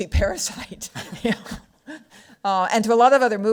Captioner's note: laughs